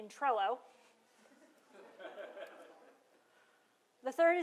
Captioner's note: laughter